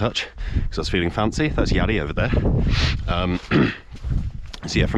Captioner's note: clears throat